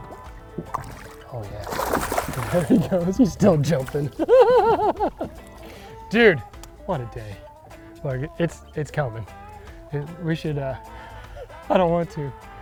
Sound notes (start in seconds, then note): 2.5 water splashing; 4.5 laughing